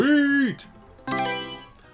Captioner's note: Mario Selection Sound